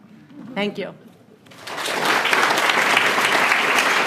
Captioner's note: applause